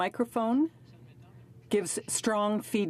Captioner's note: speaking in French